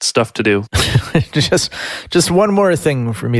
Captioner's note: laughing